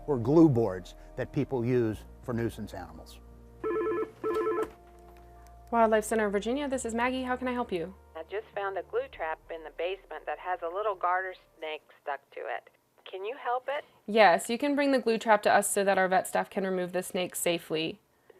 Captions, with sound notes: or glue boards that people use for nuisance animals. (phone ringing) >>Wildlife Center of Virginia, this is Maggie, how can I help you? >>I just found a glue trap in the basement that has a little garter snake stuck to it, can you help it? >>Yes, you can bring the glue trap to us so that our vet staff can remove the snake safely.